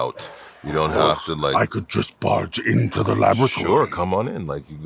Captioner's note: imitating proximus